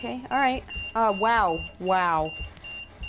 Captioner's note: EMF beeping